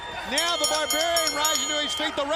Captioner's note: bell ringing